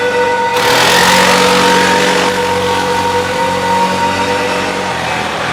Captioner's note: eerie suspenseful music; ATV engine continues whirring